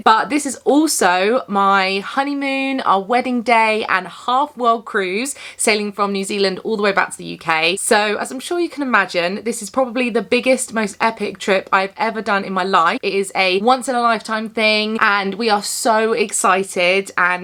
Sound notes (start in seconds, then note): none